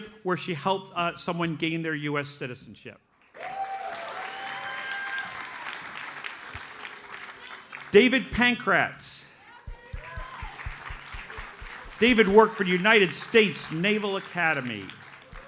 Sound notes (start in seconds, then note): 3.2 audience cheers and applauds; 9.7 audience applauds